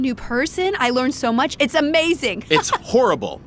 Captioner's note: laughs